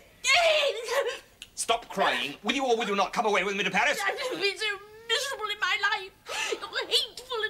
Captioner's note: sobs